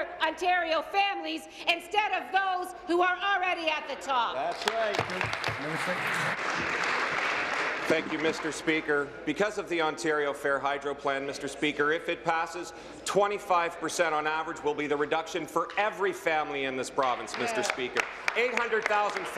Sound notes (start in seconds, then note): 0.0 applause; 7.8 applause